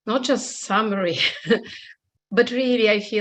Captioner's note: laughs